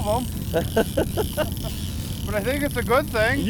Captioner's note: laughs